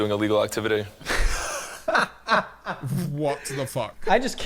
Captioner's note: laughs